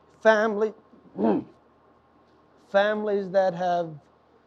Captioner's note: chokes back tears